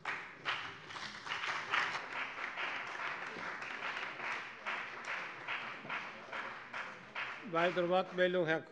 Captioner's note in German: Beifall bei der CDU und dem BÜNDNIS 90/DIE GRÜNEN